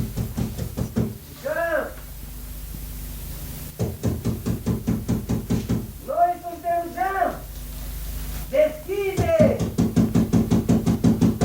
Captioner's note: sound - knocks on the door